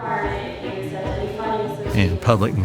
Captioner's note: Town hall announcer speaking